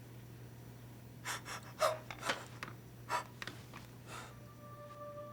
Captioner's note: Melody panting